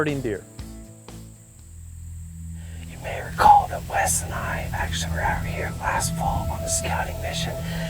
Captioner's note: whispering